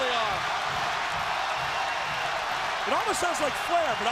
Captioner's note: crowd cheering